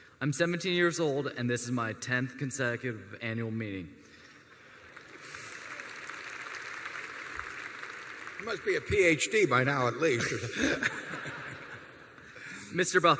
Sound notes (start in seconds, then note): 4.5 applause; 10.1 laughter